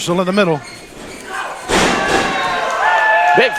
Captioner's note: body slamming, crowd cheering